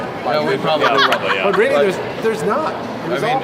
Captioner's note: laughs